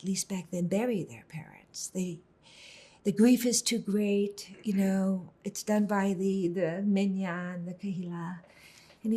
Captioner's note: hebrew